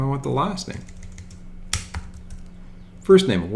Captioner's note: rapid clicking